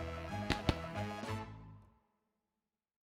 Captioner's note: clap clap